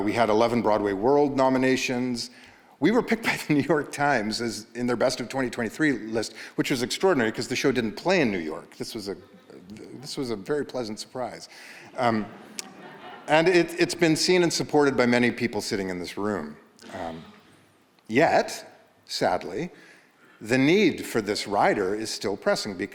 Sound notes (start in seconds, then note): 12.0 audience laughs